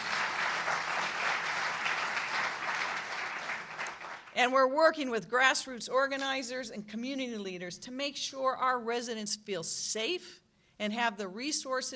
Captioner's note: applause